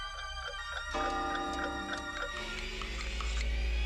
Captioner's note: clocks chiming